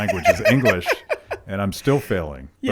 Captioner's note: laughing